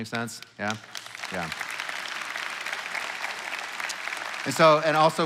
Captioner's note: congregation applauding